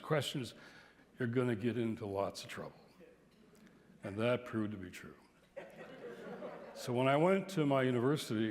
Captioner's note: laughter